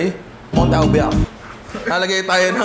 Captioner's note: speaks gibberish